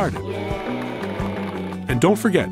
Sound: crowd

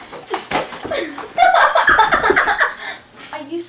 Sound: giggling

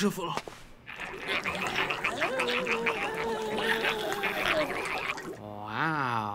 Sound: growling and grunting

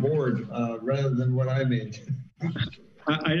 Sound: laughs

